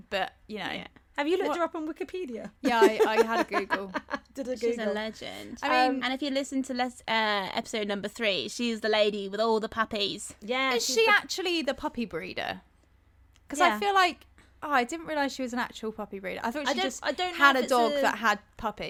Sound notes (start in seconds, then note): 2.6 laughter